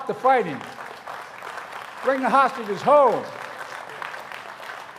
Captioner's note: applause